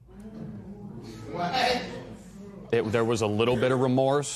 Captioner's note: spectators murmur